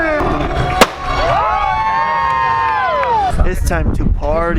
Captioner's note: crowd cheering!; pop!